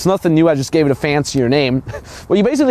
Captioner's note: laughs